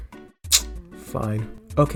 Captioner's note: sucking Teeth